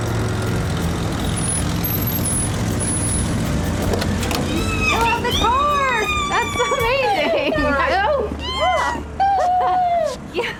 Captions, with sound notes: [BRAKES SQUEAL, CAR DOOR OPENS] [ELLIE SQUEALING] YOU STILL HAVE THE CAR; THAT'S AMAZING. [ELLIE SQUEALING]